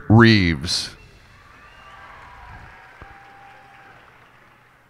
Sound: cheers and applause

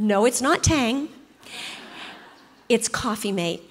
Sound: congregation laughs

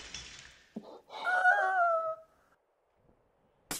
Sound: JENNY cries in pain; jar smashes; JENNY sobs, KIKI gasps

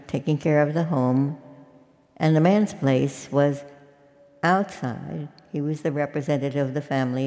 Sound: none

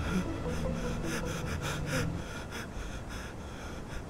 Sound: Shorya breathing heavily

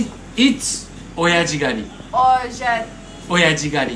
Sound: Speaking Japanese

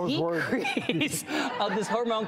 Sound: laughs

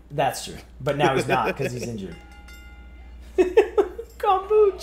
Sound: laugh; laugh

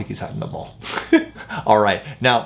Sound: chuckles

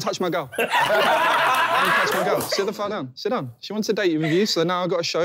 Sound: laughing

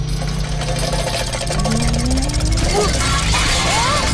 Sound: clanking; shrieking

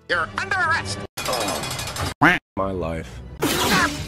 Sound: quack

